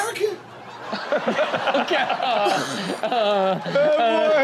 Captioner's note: audience laughs